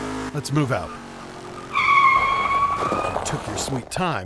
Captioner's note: truck brakes, screeching tires